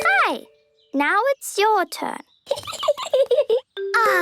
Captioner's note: Peppa giggling